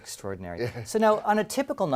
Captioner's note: laugh